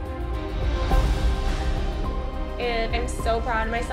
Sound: sighs

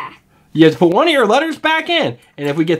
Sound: voiceover

